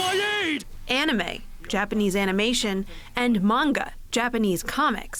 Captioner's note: voice-over